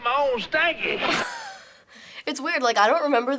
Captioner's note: chuckles